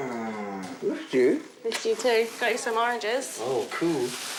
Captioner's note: smooches